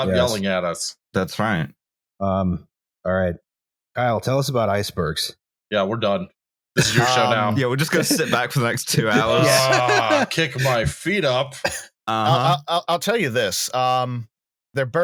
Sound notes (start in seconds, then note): 6.8 laughter; 9.7 laughing